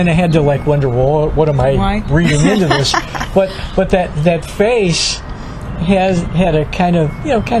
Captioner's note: laughs